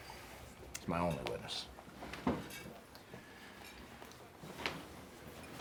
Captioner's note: chair shuffles